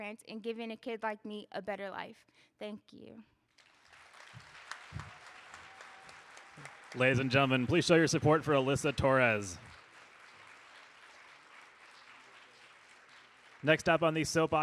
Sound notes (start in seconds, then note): 4.0 audience applauding; 10.5 audience applauding